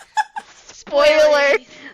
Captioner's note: laughter